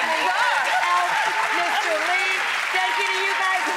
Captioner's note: audience applauding